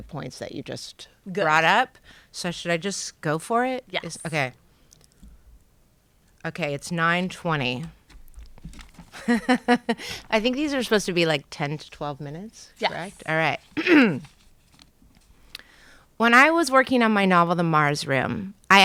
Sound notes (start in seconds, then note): 9.1 chuckling; 13.8 clearing throat